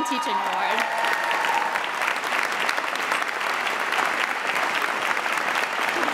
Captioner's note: audience cheering and applauding